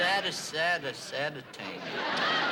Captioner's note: laughter